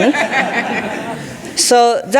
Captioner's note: audience laughing